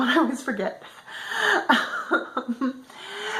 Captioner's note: laughter